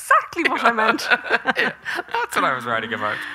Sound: both laughing

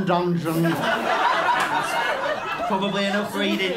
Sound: laughter

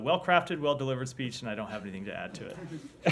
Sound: laughter

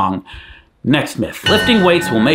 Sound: chime sounding

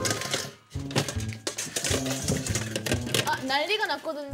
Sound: banging

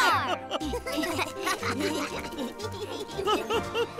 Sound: all laughing; Codi chuckles

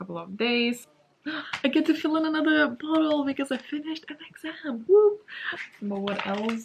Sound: gasps

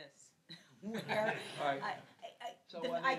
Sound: laughs

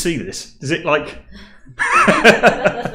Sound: laughing

